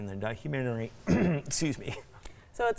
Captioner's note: coughs